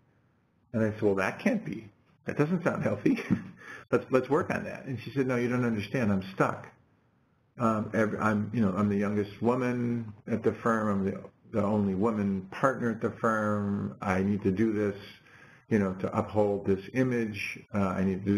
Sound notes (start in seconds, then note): 3.1 laugh